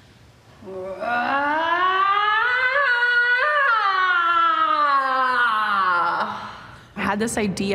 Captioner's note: screaming